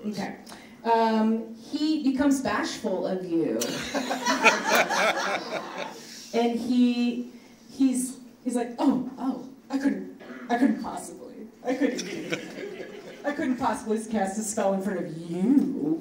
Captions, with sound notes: - Okay. He becomes bashful of you. (laughing) And he's like, "Oh, oh, I couldn't possibly, "I couldn't do it. "I couldn't possibly cast a spell in front of you,